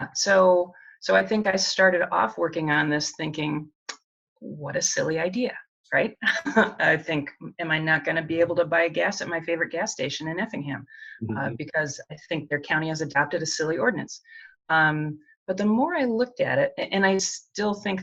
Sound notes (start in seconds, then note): 8.3 chuckles